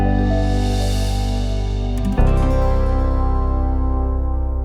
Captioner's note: logo whooshing